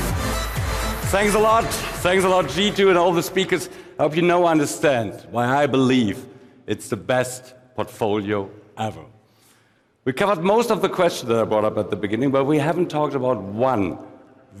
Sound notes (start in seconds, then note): 2.5 applause